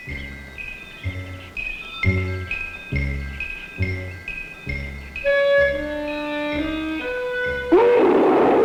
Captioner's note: roaring; distant shout; roaring